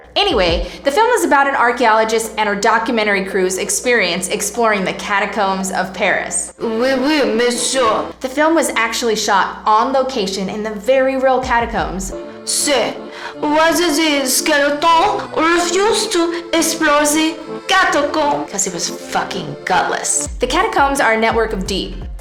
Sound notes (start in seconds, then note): 6.5 Fench accent; 12.1 French accent; 18.4 sinister voice